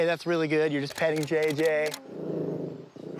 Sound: growling

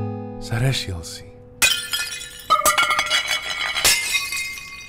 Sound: falling Plates crashing

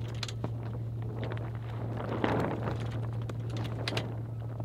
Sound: sail flapping

